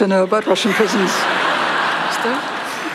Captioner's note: laughter; foreign Language